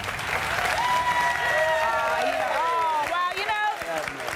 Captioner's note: applause